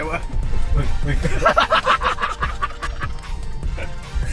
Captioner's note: engine still running